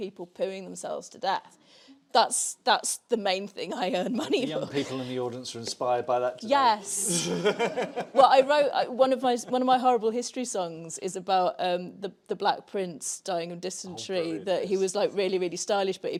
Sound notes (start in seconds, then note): 7.0 laughs